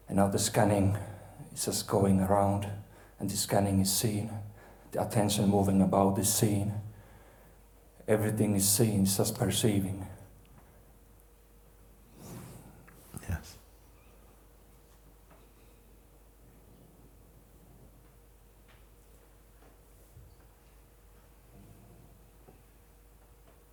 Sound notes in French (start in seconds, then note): 15.5 silence